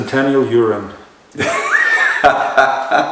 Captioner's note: laughter